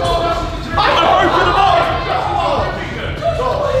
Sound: cheering; shouting

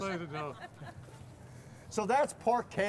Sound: laughter

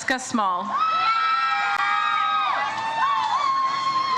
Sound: audience cheers

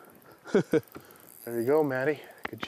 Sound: laughs

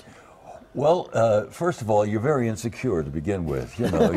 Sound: laughter

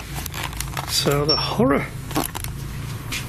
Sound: beep

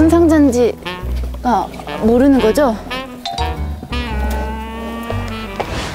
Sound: while keeps mumbling to herself

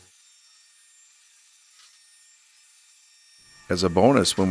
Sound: Titan buzzing

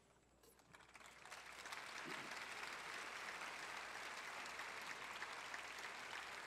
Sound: audience applauds

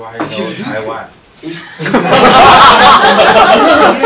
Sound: laughter

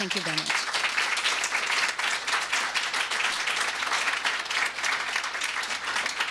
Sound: applause

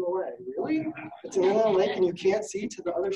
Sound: audience laughing

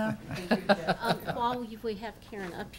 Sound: laughs

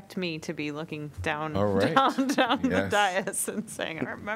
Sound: laughter

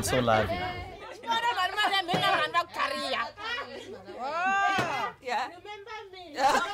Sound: kids talking and laughing

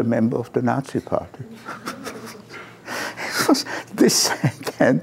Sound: laughter

